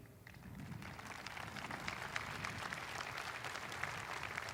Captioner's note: audience applauding